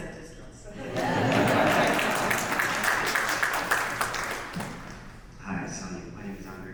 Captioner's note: audience laughs and applauds